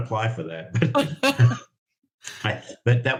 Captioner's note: both laughing